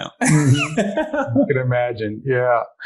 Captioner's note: laughing